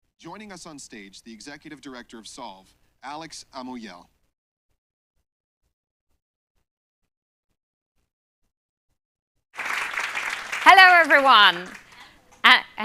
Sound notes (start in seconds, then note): 9.5 applause